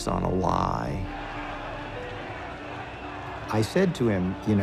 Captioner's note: crowd shouting